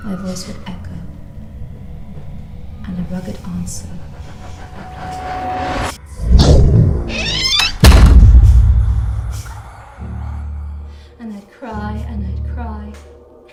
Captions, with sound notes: My voice would echo And a rugged answer would reply NO! (Door creaks) (Door Slams) And I'd cry and I'd cry